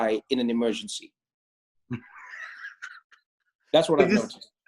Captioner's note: laughs